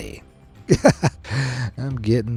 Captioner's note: chuckles